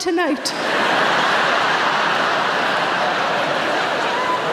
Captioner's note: audience laughing